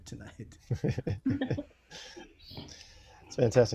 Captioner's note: laughter